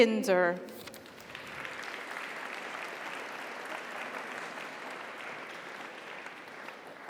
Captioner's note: audience cheers; audience applauds